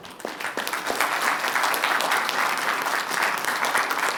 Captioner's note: applause